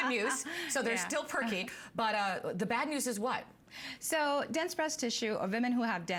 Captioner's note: laughter